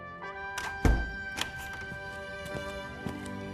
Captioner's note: door opening and closing